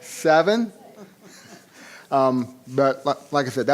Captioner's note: laughing